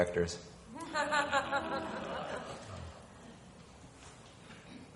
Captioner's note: woman laughing